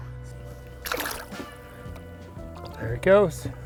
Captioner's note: water splashes